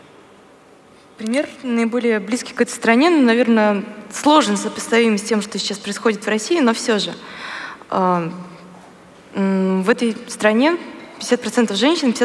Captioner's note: foreign Language